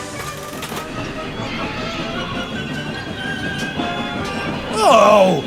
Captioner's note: JAMES' brakes start to squeal